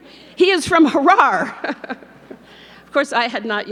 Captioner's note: laughs